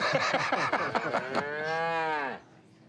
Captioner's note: laughter; cow mooing